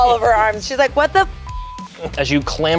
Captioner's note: beeps